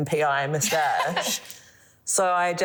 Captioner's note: laughs